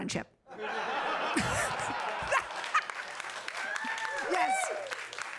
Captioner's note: audience laughing